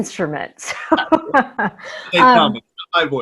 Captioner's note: laughs